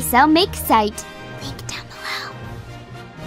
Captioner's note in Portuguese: Sussurrando